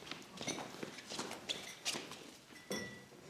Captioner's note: none